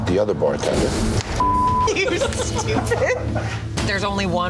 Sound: beep; laughing

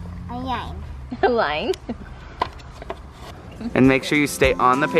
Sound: laughs

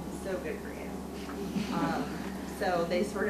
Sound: audience laughs

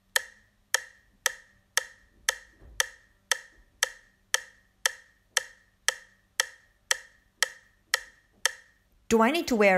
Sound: sound of clock ticking - even faster; sound of clock ticking - even faster again; English voice over

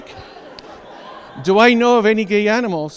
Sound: audience laughs

